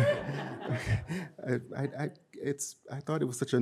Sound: audience laughing; chuckles

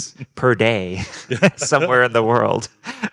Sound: group laughing

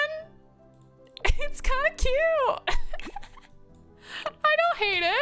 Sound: laughs

